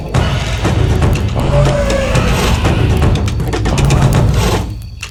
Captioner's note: dramatic drum music continues; dinosaur growling continues